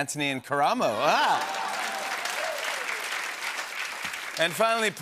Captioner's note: cheers and applause